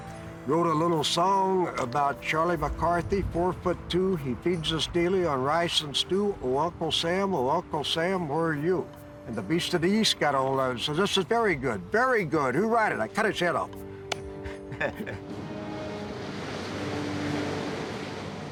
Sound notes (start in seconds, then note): 14.3 laughing